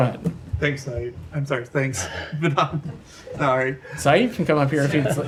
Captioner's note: laughter